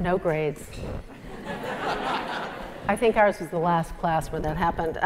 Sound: laugh

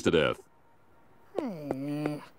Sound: grumbles

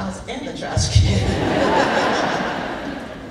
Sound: laughing

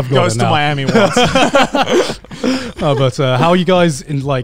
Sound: everyone laughs

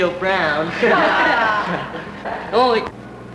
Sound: laughter

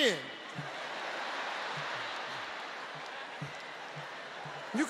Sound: audience laughing

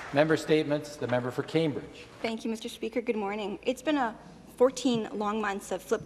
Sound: some Applause

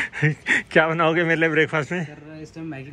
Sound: laughing

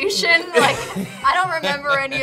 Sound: laughs

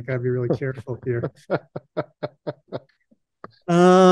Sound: laughing

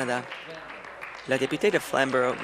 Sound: applause

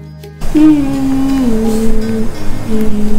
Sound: humming

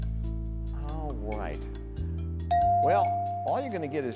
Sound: bells ding

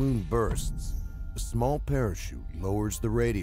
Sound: voiceover

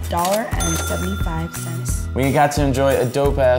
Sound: cash register rings

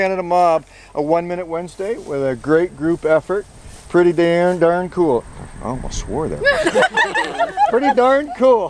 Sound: laughing

